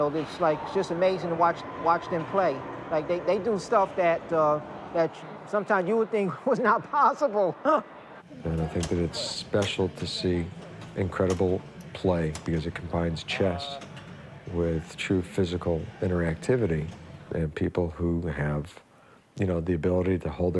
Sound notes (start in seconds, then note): 7.6 laughs